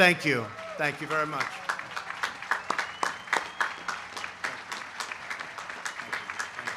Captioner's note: applause